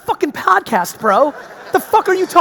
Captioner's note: audience laughing